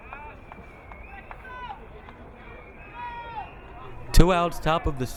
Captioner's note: crowd cheering